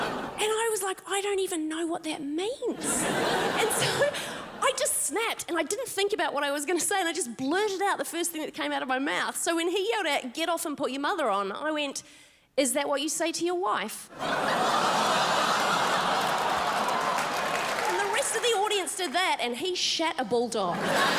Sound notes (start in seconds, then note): 14.1 crowd laughs